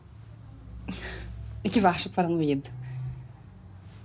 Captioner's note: exhales